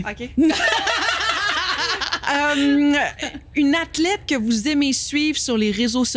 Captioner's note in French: rires